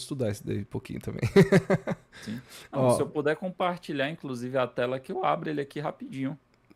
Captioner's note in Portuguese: risadas